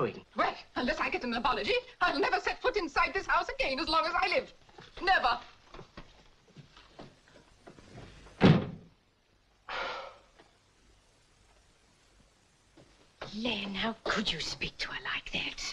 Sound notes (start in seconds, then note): 8.4 door slams shut; 9.6 Len sighs